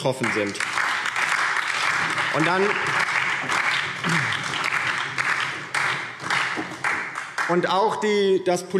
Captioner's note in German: Beifall DIE LINKE und SPD